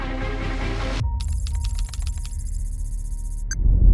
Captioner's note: keyboard clacking